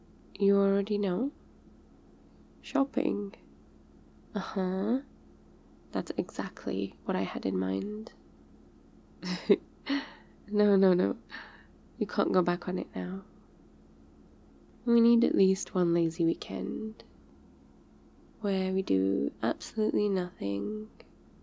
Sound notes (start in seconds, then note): 9.2 laughs